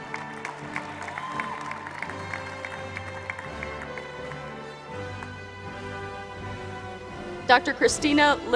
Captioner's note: applause